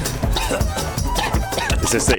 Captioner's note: coughing